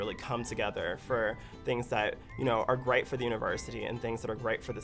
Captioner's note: voiceover